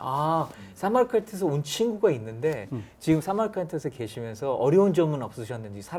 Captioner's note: speaking in Korean